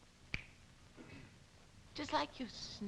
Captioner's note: fingers snapping